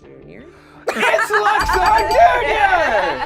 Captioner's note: bell rings; laughs; group cheers